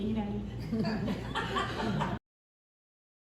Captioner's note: laughter